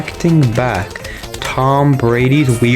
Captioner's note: inhales Oxygen